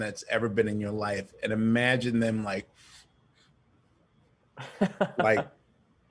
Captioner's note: sniffling